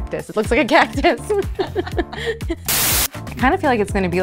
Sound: both laughing

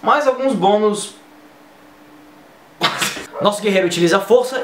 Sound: humm, hemm, pfft

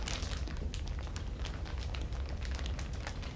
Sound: crackle of the plastic

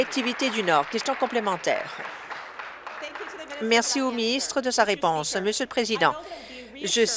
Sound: applause

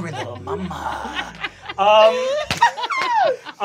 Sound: laughing

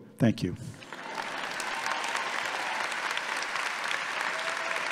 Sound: audience applauding

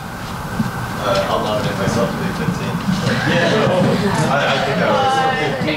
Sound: audience laughs and groans

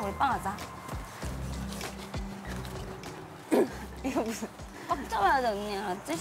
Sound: flap

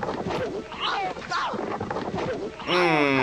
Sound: laughs

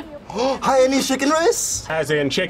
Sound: laughs; gasps

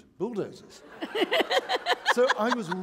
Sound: laughter

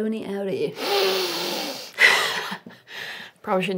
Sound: loud inhale

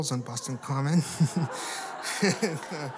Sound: laughter

